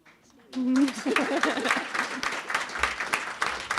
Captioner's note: crowd applauding